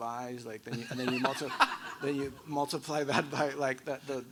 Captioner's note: laughs